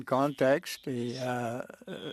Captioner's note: speaking French